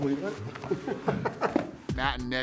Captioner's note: laughs